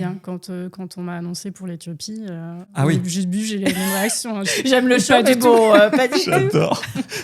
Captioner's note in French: rires